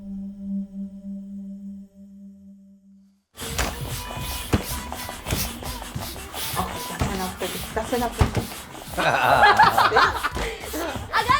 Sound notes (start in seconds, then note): 3.4 air hissing; 3.4 radio lulling; 9.1 family laughing